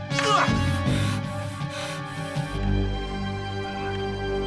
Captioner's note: eddie breathes heavily